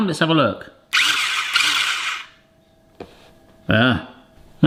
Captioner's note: motor whirs